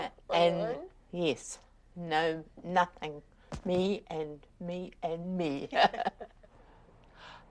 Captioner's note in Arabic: تضحك